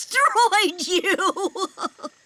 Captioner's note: laughing